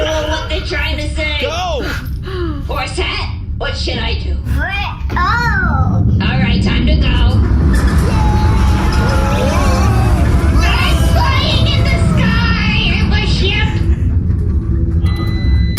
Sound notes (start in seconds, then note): 1.7 shouts; 7.5 crew screams as Bargie enters hyperspace